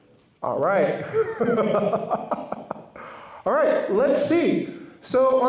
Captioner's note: laughs